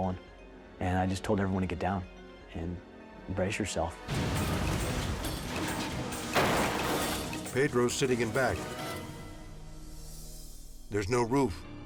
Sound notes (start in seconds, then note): 4.0 tense music; 4.0 truck crashes